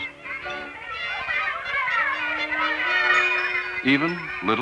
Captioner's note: children playing